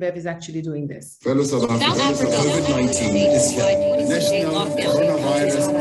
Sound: people chattering

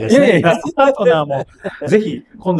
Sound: laughs

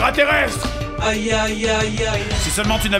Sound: computer-generated voice

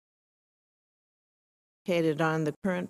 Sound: audio cuts out

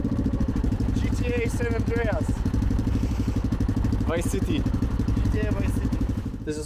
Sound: man speaking in foreign language

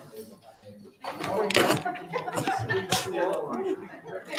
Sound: members chattering

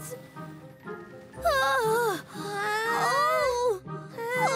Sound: both whimpering

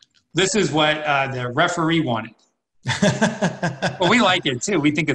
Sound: laughs

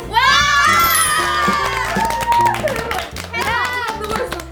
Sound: clapping

